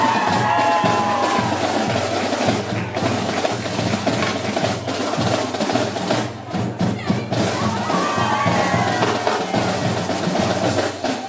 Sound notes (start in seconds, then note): 0.0 cheering; 1.3 drum music